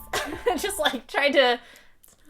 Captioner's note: laughing